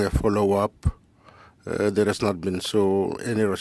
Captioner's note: speaking French